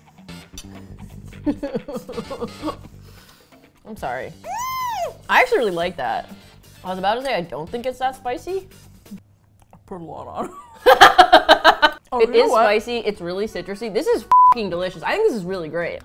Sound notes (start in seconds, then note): 1.4 laughs; 4.4 squeals; 10.4 laughs